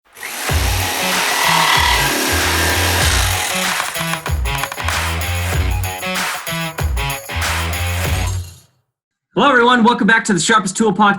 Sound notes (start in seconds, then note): 0.0 saw buzzing; 2.2 upbeat music